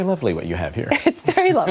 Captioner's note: laughter